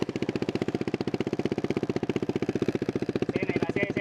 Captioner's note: the exhaus pipe's sound